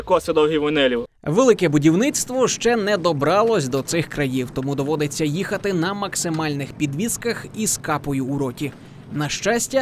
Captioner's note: voiceover